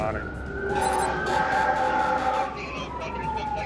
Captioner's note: horn blaring